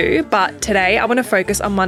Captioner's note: none